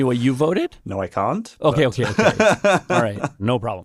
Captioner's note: laughs